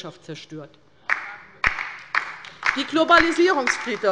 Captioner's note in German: Beifall bei der LINKEN